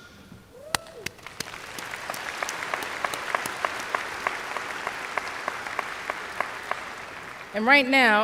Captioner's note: applause